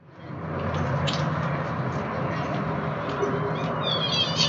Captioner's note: distant traffic noise